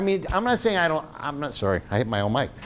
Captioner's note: thumps